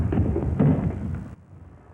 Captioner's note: footsteps; thump